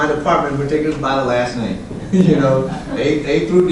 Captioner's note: laughs